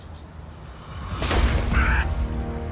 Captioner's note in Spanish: Disparos